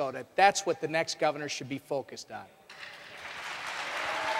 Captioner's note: applause